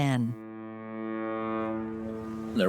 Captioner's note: foghorn